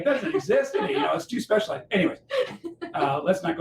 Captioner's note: laughter